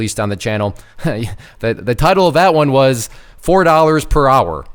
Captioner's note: laughing